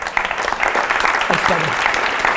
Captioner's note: applause